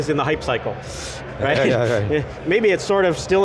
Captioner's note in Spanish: se ríe